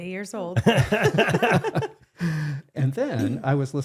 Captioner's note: both laughing